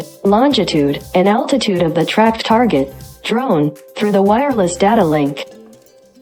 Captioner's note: drone